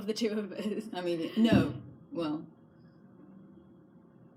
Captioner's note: thudding noise from neighbours next door